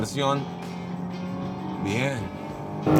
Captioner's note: engine roaring